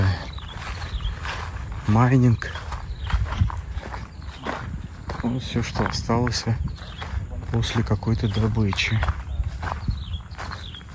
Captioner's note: footsteps crunching